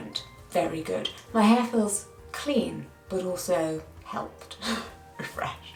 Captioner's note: chuckling